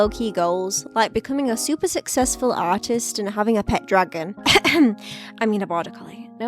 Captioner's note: cough, cough